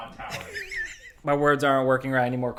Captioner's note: laughing